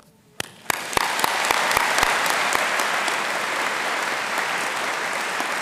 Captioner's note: audience applauding